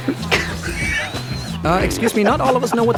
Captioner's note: mocking laughter